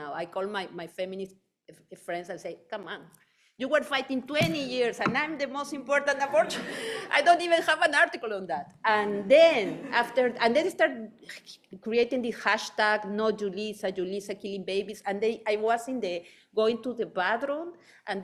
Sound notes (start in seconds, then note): 6.2 laughing; 9.6 audience laughing